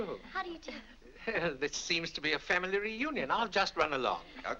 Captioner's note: chuckles